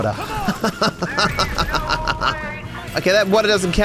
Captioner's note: laughs sarcastically